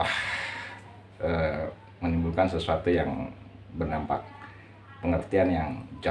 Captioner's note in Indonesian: menghela napas